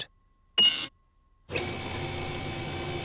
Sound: beeping

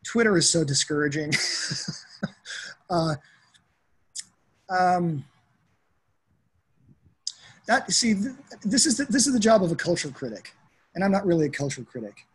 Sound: laughter

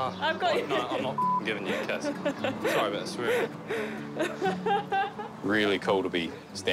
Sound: laughs

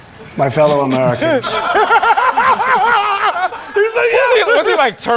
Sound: laughter

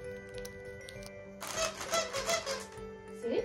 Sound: present squeaks

